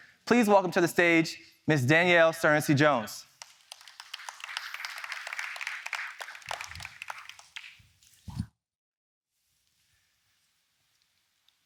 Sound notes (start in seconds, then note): 3.3 audience applauding